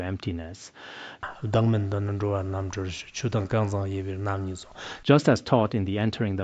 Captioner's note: citing scripture in Tibetan